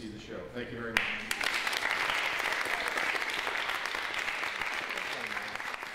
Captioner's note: applause